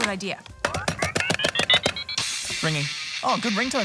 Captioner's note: smacks phone; metal music plays